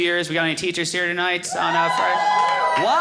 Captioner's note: audience cheering